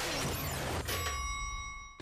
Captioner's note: dinging